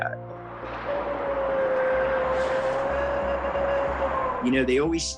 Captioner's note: howling